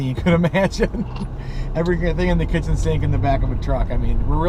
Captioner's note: laughing